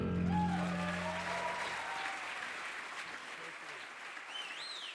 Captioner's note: audience applauding